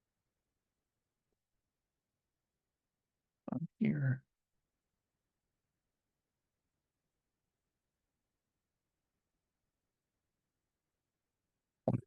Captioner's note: silence